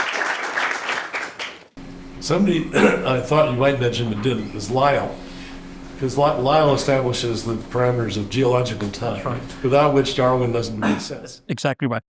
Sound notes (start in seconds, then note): 2.7 cough